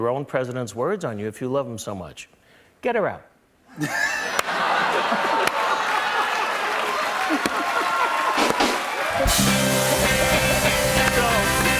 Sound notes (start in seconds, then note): 3.8 laughter and applause; 8.4 rim shot, band plays fanfare